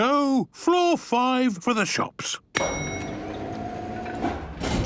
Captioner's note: elevator dinging